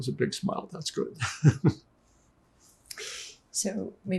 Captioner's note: laughing